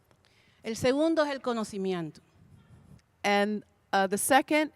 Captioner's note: Spanish language 00:37:04